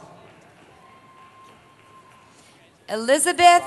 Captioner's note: cheering